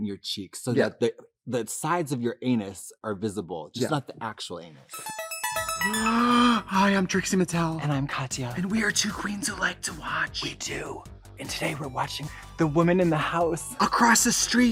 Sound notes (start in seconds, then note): 4.9 bright electronic music; 6.3 gasps